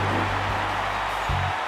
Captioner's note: crowd cheers